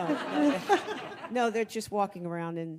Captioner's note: audience laughing